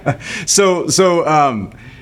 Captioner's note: laughing